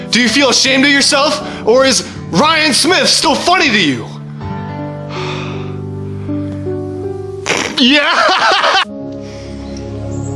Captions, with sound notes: Do you feel ashamed of yourself!? Or is Ryan Smith still funny to you? Yeah! [Laughs]